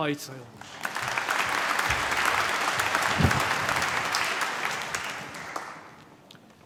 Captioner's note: applause